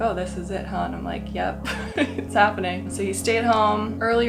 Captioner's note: laughs